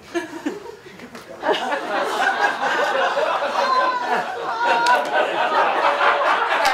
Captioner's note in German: Gelächter